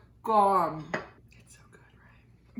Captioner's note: whispers